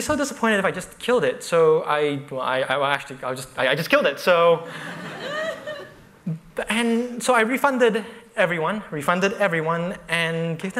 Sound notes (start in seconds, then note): 4.7 laughter